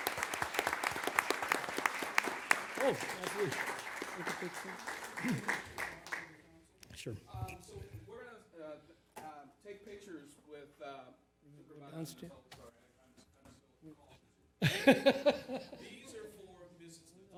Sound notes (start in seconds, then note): 13.0 applause